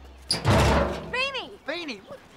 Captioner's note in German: Metallklirren